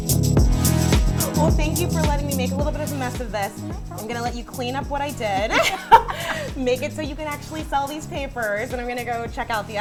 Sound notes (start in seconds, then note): 5.2 both laugh